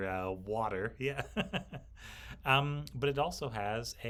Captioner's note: laughs